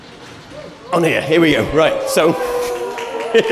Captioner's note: laughter, applause